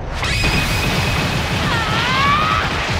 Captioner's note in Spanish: Grita enfadado